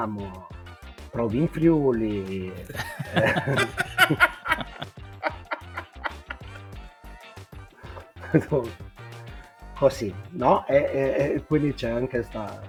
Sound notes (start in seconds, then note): 2.0 laughs